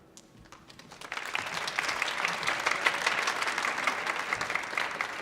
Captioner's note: audience applauding